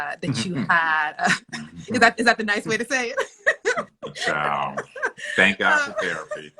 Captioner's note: laughs